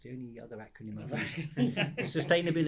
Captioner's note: group laughing